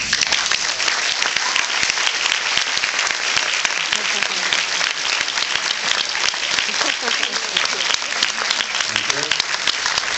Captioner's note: applauds